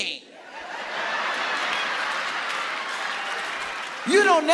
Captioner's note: audience laughing